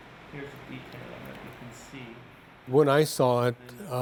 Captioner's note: soft talking